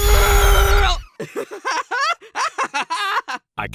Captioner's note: paintbrush laughs